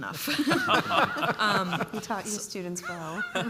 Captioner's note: panelists laugh